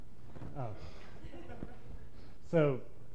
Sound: laughter

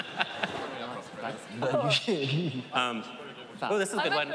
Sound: indistinct chatter

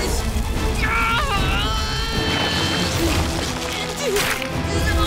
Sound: grunting

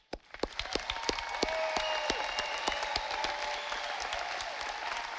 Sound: audience applauding

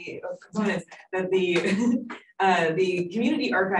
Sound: laughs

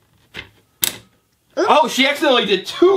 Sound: voiceover

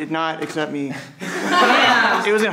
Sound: everyone laughs

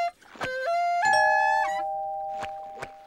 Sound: doorbell ringing

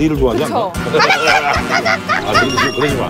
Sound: mimicking a chicken

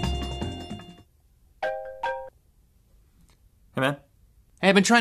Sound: cell phone rings

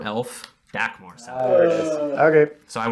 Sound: collective Groan

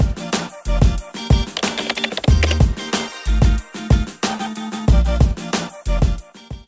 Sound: upbeat music; keyboard clatter

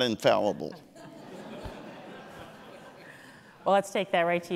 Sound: audience laughing

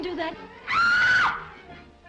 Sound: scream of horror

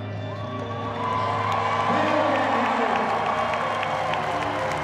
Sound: crowd cheering

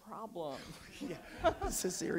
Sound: audience laughs

